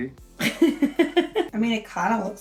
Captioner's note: laughs